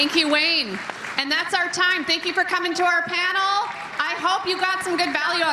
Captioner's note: cheering and Applause